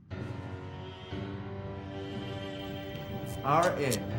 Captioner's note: dramatic music; electricity sizzling